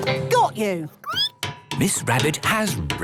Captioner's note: squeaking